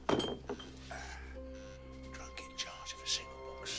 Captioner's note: bottle thuds